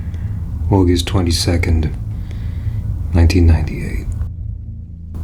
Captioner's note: sighs